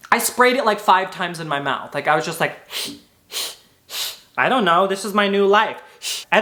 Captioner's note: sprays; sprays